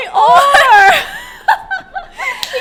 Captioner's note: laughs